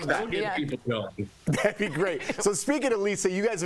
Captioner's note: laughter